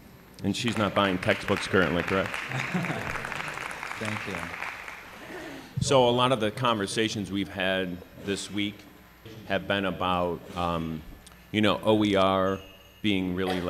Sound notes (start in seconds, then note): 2.5 applause